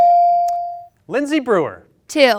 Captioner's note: bell ring